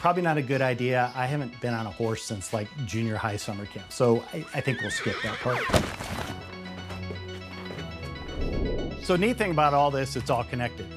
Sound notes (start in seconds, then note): 4.5 horse neighing; 6.4 uptempo music